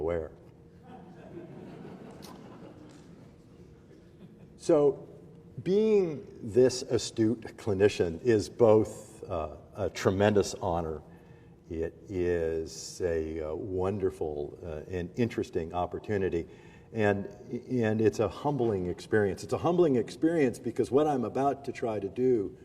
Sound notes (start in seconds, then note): 3.9 laughter